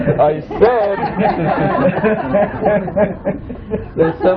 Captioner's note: laughter